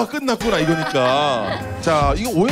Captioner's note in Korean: 자동 / 탄식